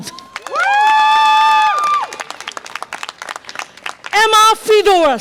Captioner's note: audience applause and cheer